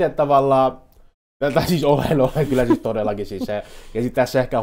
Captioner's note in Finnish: naurahtaa